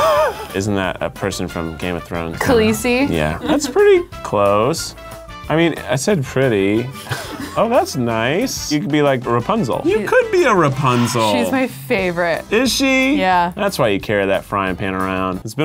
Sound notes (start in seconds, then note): 11.5 sighs